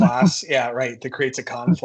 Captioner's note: laughs